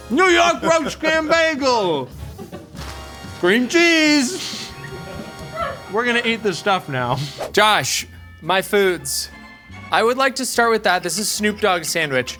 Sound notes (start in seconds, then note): 3.4 chuckling; 4.3 crew member laughing; 7.1 air whooshing; 9.2 whimsical music